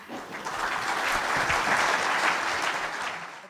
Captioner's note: audience applause